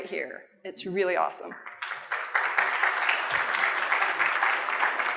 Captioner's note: applause